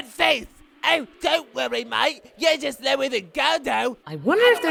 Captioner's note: mockingly